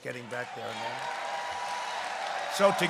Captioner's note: applause